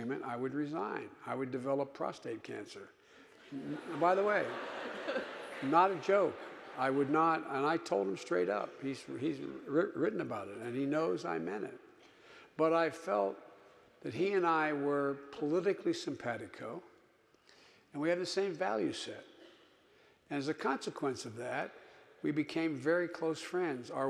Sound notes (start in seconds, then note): 3.4 audience laughing